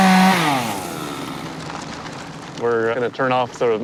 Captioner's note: chainsaw cutting timber